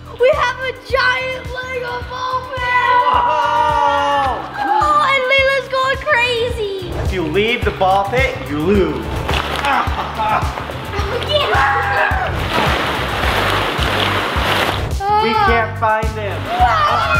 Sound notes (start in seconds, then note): 2.6 screaming; 9.4 laughing; 9.9 screaming; 12.2 balls clattering; 16.5 screaming